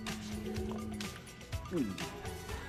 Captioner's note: gulps